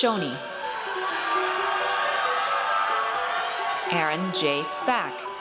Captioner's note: audience cheers